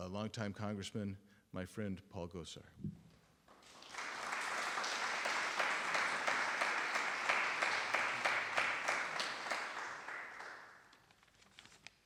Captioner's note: applause